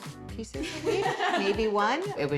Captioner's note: laughs